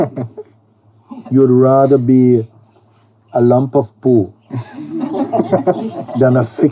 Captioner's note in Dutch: gelach